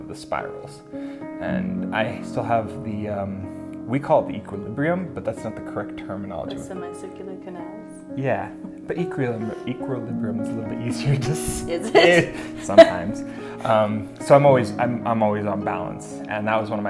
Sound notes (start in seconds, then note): 11.8 laughter